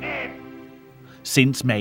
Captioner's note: German spoken audio